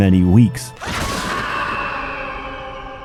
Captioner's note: horrifying screams